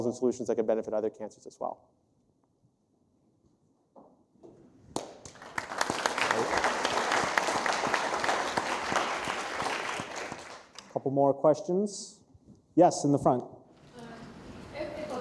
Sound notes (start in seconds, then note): 4.9 applause